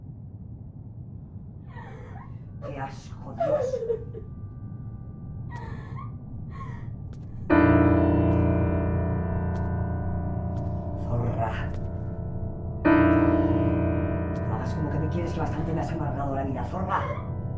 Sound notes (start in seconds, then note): 2.6 Ira sobs; 3.5 female voice; 6.8 distorted piano